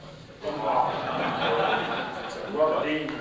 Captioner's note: laughter